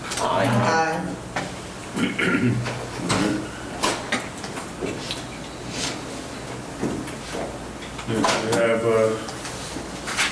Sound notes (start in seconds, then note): 1.9 clearing throat